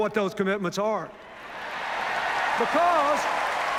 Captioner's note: cheers, applause